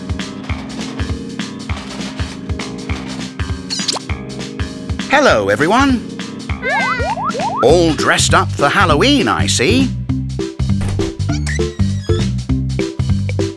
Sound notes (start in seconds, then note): 10.8 door opening